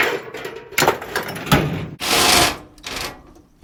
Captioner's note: case and parts banging; drill buzzing